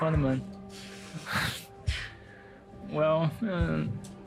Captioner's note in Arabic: تضحك